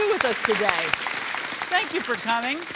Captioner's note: audience applauding